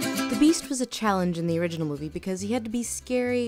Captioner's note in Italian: voce fuori campo